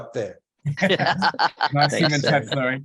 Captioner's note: laughter